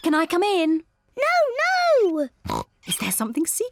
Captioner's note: oinks